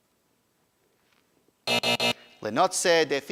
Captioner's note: buzzer buzzing